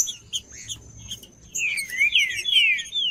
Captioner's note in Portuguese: trinca ferro cantando